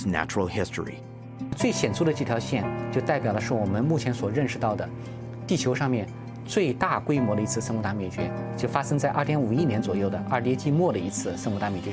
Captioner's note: speaking Chinese